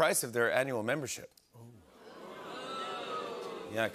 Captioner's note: audience boos